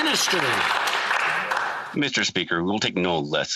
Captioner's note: some Applause